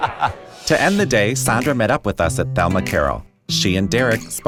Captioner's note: laughs